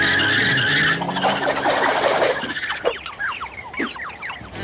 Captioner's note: screeching